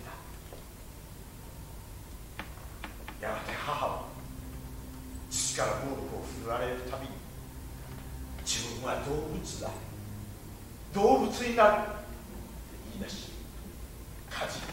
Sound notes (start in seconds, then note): none